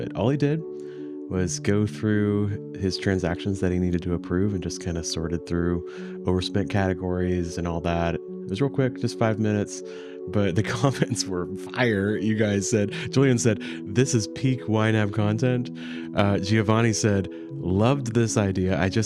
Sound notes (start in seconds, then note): 10.4 chuckles